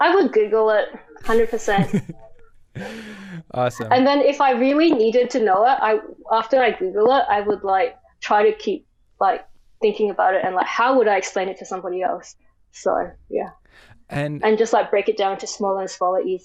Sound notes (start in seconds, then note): 1.2 laughing